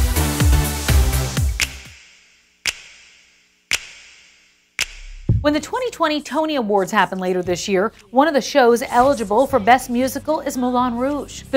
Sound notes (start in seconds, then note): 0.0 upbeat music; 1.0 rhythmic snapping